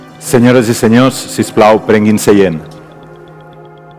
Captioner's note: speaks in foreign language; lighthearted music